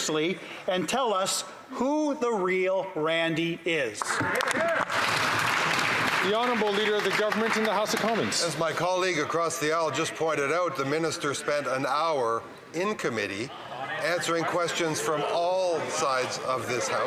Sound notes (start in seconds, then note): 7.4 applause